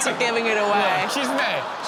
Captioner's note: crowd laughs